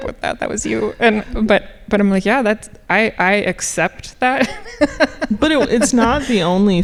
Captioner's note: laughing